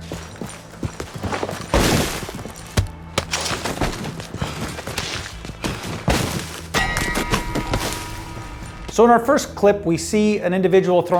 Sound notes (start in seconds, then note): 0.2 body falls; 6.7 bell dings